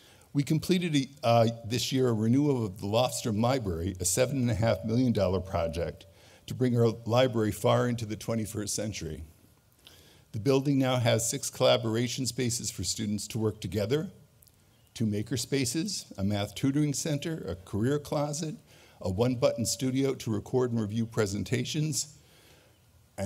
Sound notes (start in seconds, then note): none